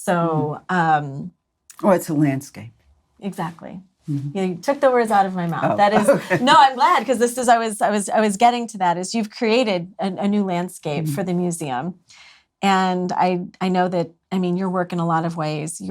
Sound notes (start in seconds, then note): 5.5 laughs